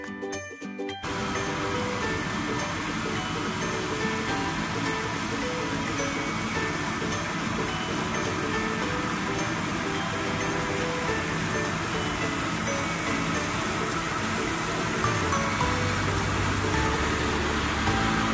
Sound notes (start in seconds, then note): 1.3 machinery whirring; 15.6 upbeat music